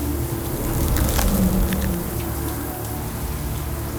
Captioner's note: icy crunching